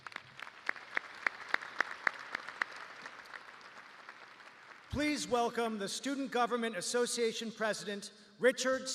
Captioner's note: applause